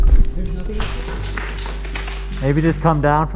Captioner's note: rocks clatter